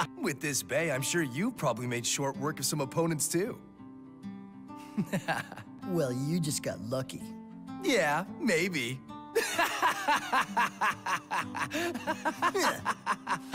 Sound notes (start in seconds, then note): 4.8 wholesome laugh; 9.4 laughing; 13.3 both laughing